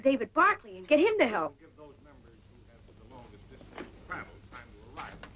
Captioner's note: person speaking off mic